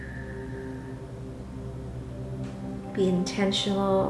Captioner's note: exhaling